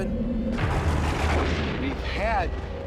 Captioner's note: thunder crashes